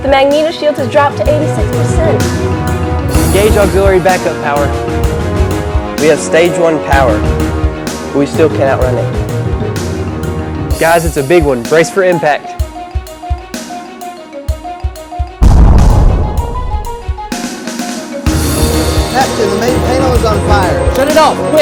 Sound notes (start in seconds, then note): 0.0 instrumental music; 15.4 explosion